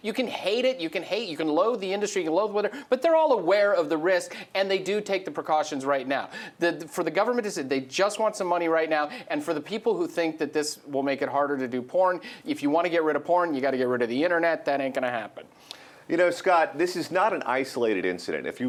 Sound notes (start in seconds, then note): 16.2 voiceover